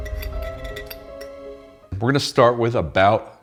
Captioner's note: beep; lid rattling